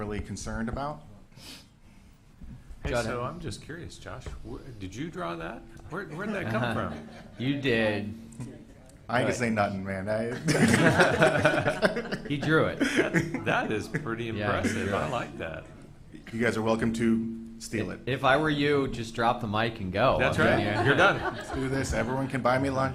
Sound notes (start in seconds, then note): 10.3 people in the room laugh